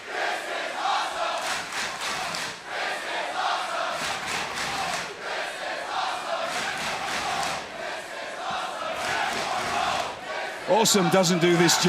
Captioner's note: crowd cheering